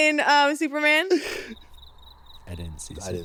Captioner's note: crickets chirping